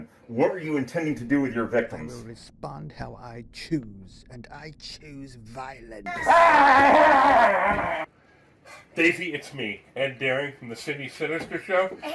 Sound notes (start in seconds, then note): 6.0 Detective Mummy groaning